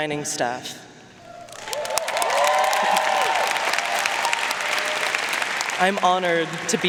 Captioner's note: audience cheering and applauding